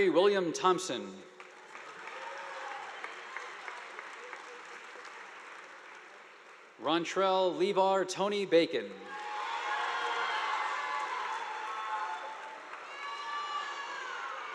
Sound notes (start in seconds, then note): 1.4 audience applauding; 9.0 students cheering; 9.0 audience applauding